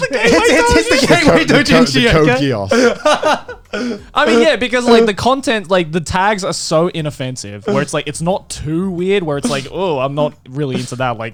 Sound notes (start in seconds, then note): 2.0 overlapping chatter and laughter